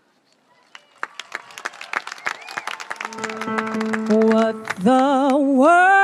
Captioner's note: audience applauding and cheering